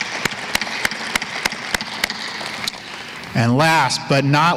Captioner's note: applause